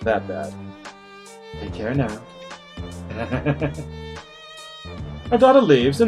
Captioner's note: chuckles